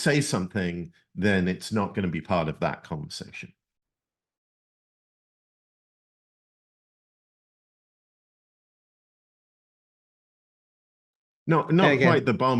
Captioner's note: silence